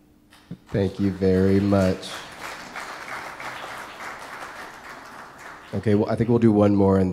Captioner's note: audience applause